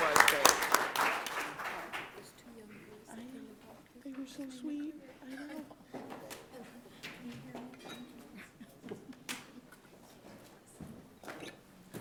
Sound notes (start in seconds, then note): 1.8 background chatter